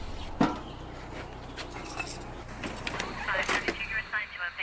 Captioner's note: grill closing; radio chattering